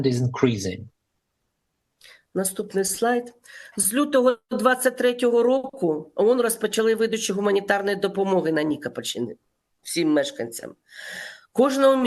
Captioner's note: foreign language